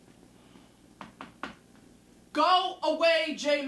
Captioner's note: knocking on door